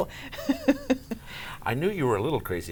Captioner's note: laughing